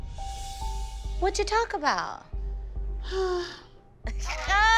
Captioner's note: sighs